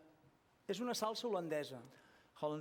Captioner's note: non-english